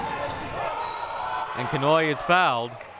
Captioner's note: whistle blowing